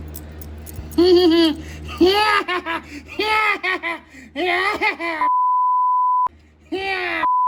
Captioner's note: Caprice laughs and giggles